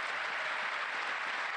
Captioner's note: applause